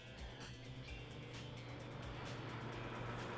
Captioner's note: fan humming